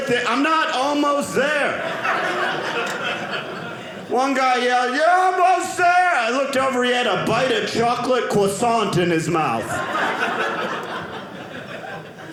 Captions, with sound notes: I'm not almost there. (audience laughing) One guy yelled, "you're almost there." I looked over, he had a bite of chocolate croissant in his mouth. (audience laughing)